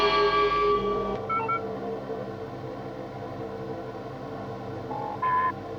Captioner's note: instrumento emite um sinal sonoro